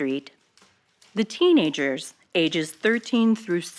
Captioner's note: archival news audio